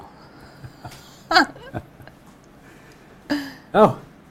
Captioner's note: both laughing